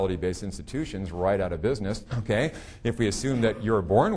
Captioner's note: chuckling